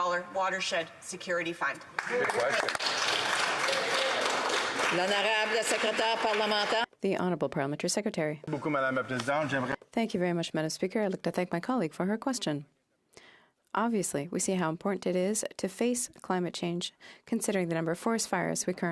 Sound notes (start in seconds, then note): 6.5 applause; 8.4 speaking in French